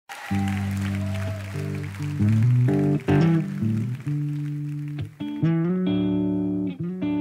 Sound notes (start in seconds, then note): 0.0 audience cheering; 2.2 light rock music